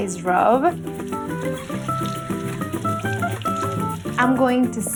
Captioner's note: splashing